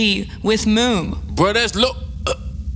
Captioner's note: chokes